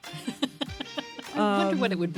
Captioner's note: laughter